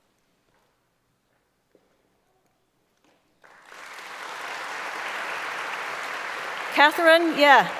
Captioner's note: applause